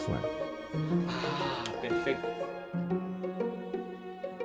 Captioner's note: teacher speaking Spanish; gentle music continues